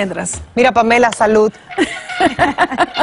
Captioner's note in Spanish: risas